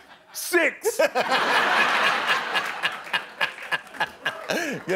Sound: laughter

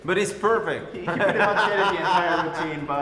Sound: laughter

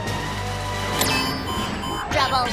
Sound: beeping

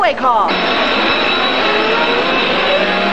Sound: old timey getaway sounds

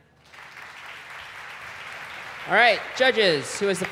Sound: applause

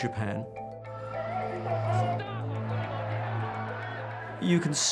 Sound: people speaking in foreign language

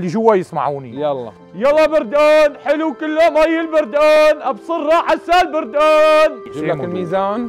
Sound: shouts in a high-pitched tone

